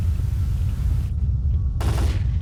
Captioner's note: gun shots